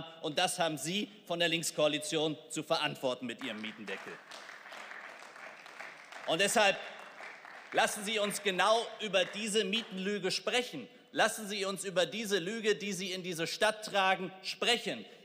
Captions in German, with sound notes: Und das haben Sie von der Linkskoalition zu verantworten mit Ihrem Mietendeckel. (Beifall) Und deshalb lassen Sie uns genau über diese Mietenlüge sprechen. Lassen Sie uns über diese Lüge, die Sie in diese Stadt tragen, sprechen.